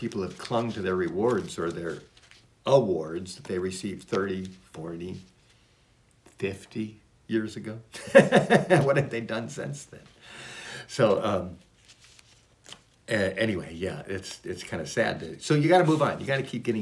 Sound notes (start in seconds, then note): 8.0 laughs